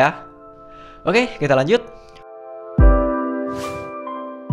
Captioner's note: whip Effect